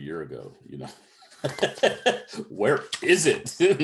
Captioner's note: laughs